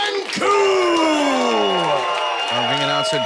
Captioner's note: audience cheers